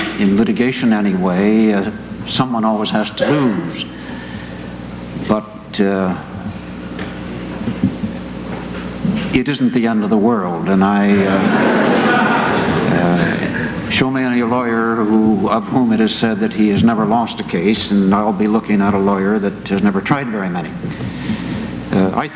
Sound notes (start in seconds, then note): 11.1 laughter